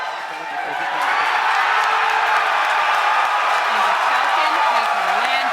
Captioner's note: cheers and applause